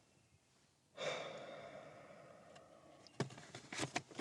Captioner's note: sighs